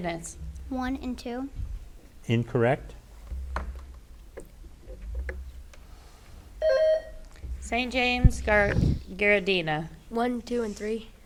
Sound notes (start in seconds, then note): 6.6 bell rings